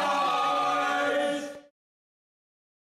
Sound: crowd

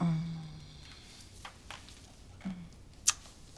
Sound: smooch; sniffles

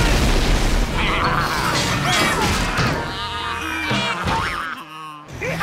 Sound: baaing

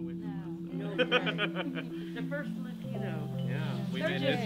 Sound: laughs

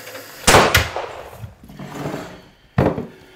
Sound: gunshot

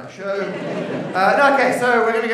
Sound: laughter

